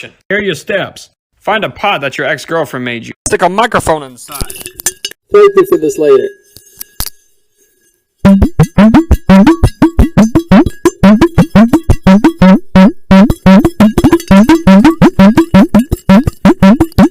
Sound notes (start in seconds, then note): 4.3 audio gets v muffled; 8.2 it makes a bouncy noise!!! it makes a roundy bouncy noise!!!